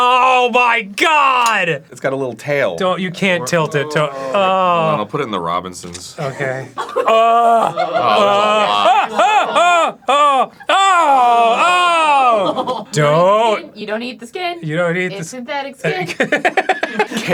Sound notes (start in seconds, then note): 7.1 groaning in disgust; 10.6 dan's short yells become one long disgusted groan; 15.9 laughs nervously